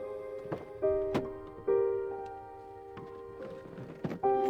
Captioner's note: car door thuds; car door clicks